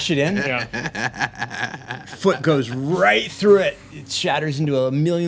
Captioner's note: laughing